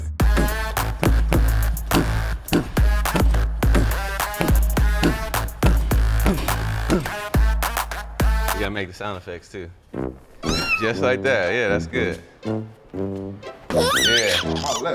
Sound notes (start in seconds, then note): 0.0 upbeat techno music; 3.0 kicks thudding; 4.3 panting; 9.9 playful music; 10.4 cat meows; 13.7 toddler giggling